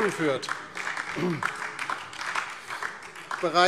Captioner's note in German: Beifall DIE LINKE und SPD